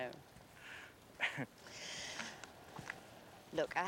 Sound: chuckles

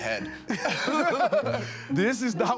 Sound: laughter

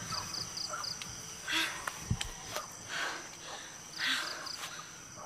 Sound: gasping; sighs

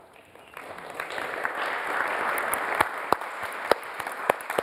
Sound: audience applauds

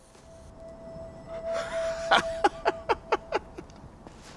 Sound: laughing

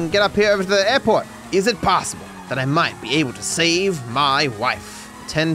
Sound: with an accent

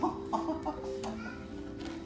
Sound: laughs

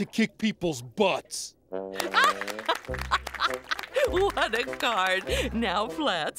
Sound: laughing

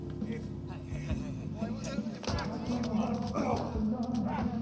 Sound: man groaning

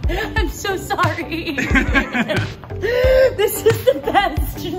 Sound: laughs

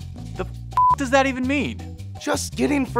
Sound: beep

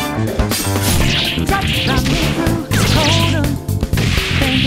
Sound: battle sound effects from the game

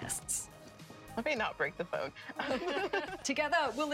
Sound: laughter

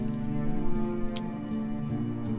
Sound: key slides into padlock, unlocks it

